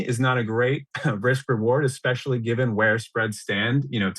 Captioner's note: laughs